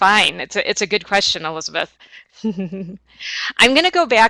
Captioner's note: chuckles